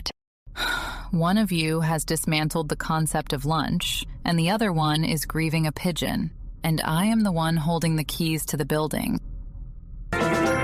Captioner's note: sighs